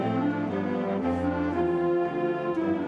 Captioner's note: none